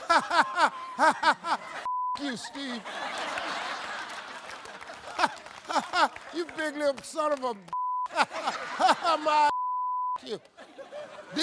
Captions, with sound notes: "(laughs) (beep) you, Steve." (audience laughs) "(laughs) You big-lipped son of a (beep). (laughs) My (beep). (beep) you."